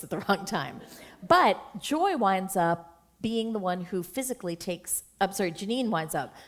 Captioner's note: chuckle